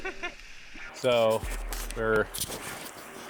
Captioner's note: laughs